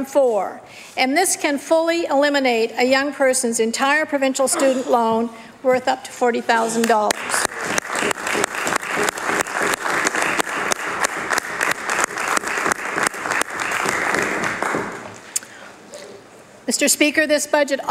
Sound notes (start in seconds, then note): 13.8 applause